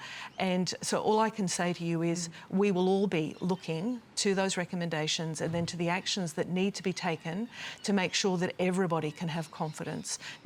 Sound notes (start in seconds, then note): none